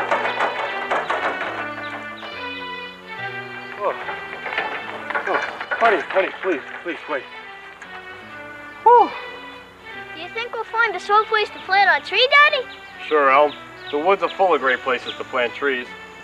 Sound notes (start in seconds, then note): 4.2 heavy breathing